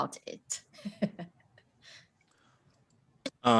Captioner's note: laughs